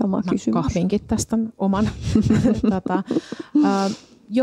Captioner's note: giggles